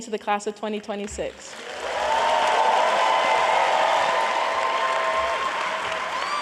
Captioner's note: applause